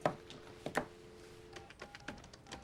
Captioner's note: dialing